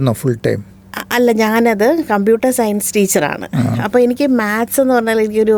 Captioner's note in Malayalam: തൊണ്ട ശരിയാക്കുന്നു